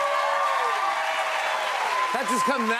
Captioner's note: cheers and applause